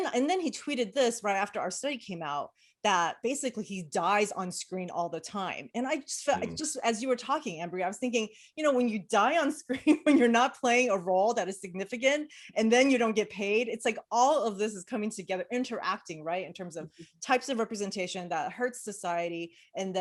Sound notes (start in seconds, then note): 9.6 chuckles